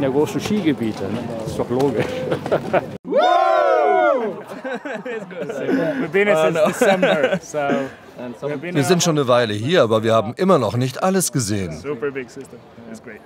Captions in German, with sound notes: Wegen der großen Skigebiete, ist doch logisch! (Jubelrufe) (englisch:) Wir sind schon eine Weile hier, aber wir haben immer noch nicht alles gesehen. - It's great.